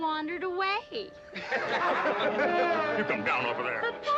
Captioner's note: crowd laughing